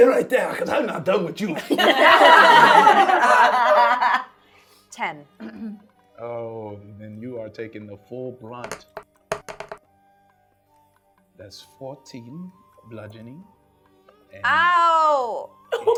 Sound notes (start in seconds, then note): 1.5 laughing; 9.3 dice rolling